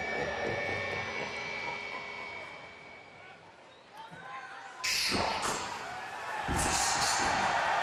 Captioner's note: crowd cheering